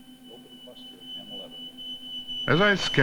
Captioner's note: beeping